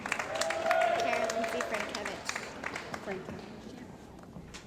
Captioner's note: cheering & Applause